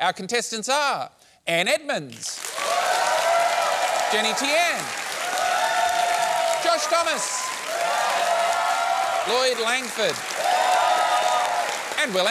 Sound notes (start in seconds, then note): 2.1 cheering, applause; 5.2 cheering, applause; 8.0 cheering, applause; 10.7 cheering, applause